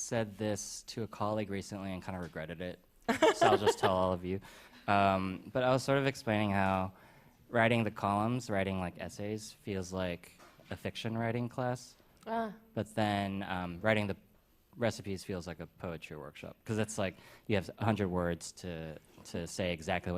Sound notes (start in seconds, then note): 3.1 laughter